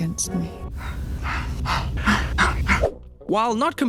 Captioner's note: sighing intensifies